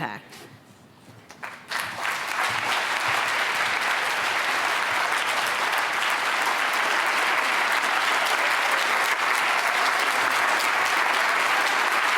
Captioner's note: applause